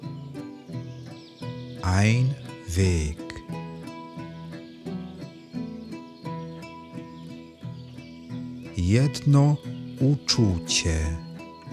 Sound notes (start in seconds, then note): 3.3 german